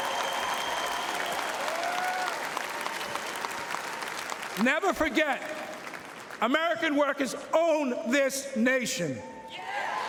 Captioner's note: cheering and Applause; cheering and Applause